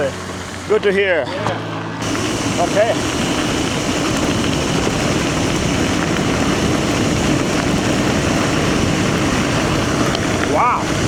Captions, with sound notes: Good to hear Okay [Rushing water] Wow